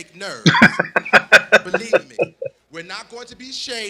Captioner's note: laughing